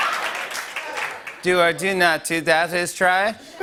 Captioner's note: laughter and applause; robotically; laughter